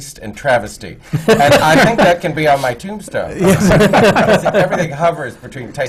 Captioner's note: laughter